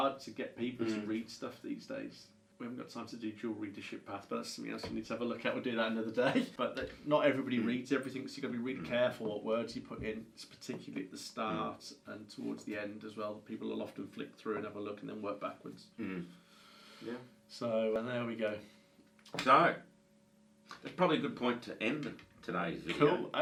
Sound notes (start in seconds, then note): 6.1 chuckles